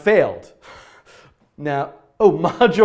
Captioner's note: laughing